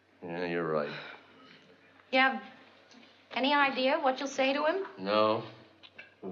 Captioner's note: sighs